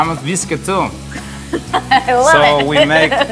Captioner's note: chuckles